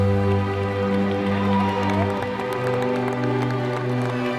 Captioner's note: crowd Cheering